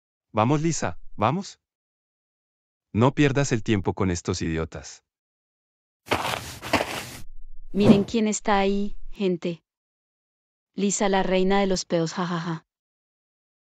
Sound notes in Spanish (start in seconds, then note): 6.1 FX - Footsteps - On Multiple Dirt - Walk; 7.8 FX - Whoosh - 03